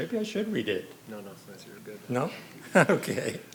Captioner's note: faintly speaking